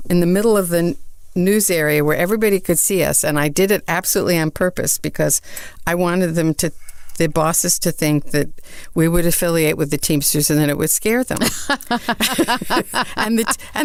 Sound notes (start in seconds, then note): 11.4 laughs